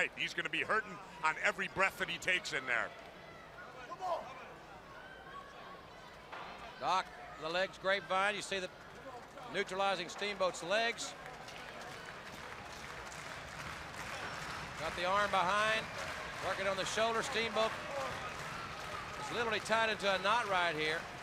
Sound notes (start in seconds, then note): 3.2 crowd chatter; 11.3 crowd cheering